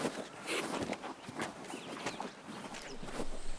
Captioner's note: Stacey sniffles